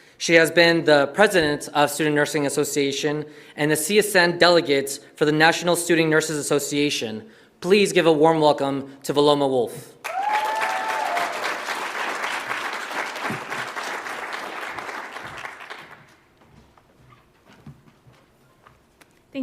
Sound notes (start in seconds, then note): 10.0 audience applauds